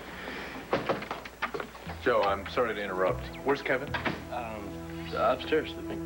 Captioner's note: knock on door